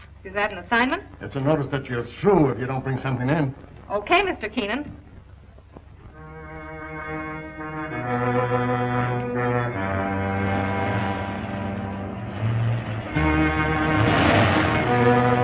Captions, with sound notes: - Is that an assignment? - It's a notice that you're through if you don't bring something in. - Okay, Mr. Keenan. (solemn music) (engine rumbling)